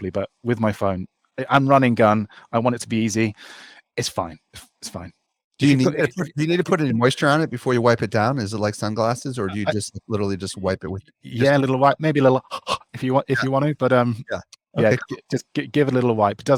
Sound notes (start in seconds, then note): 12.4 breathes heavily